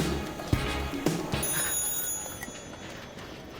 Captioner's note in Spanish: Suena el teléfono